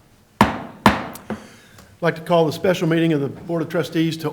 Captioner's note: gavel